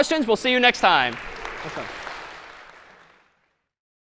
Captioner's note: applause